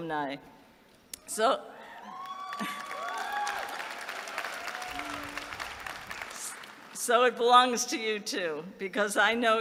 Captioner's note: applause